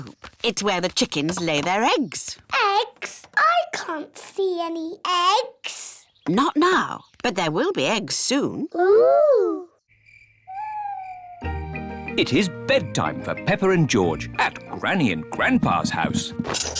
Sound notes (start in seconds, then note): 9.8 crickets chirping